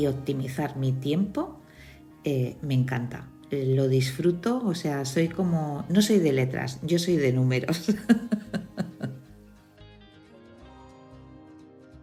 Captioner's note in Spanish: risas